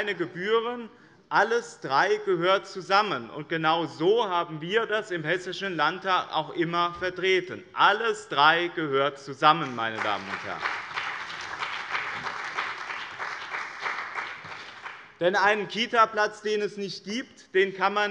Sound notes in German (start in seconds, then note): 9.6 Beifall bei der CDU und dem BÜNDNIS 90/DIE GRÜNEN